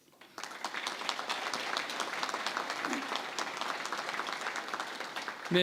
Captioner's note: applause